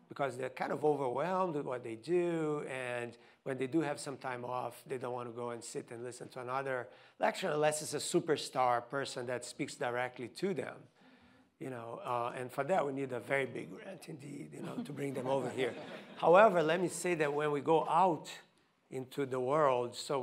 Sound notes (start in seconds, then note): 14.6 audience laughing